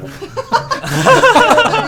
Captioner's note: laughing